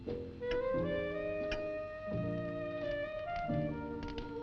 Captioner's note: clock ticking